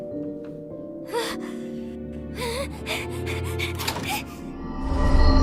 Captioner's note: groans, panting